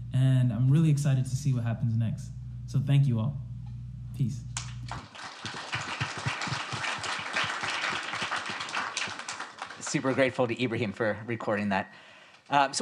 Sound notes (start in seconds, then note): 4.6 audience applauds